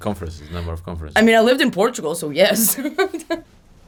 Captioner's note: laughs